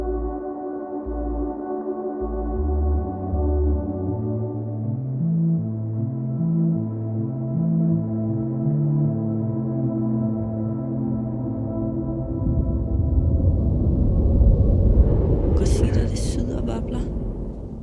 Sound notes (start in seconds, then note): 0.1 ominous music continues; 9.1 waves rumbling